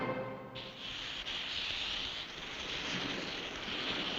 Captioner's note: hissing